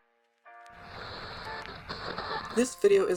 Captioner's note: static